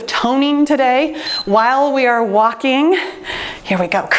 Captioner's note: timer beeps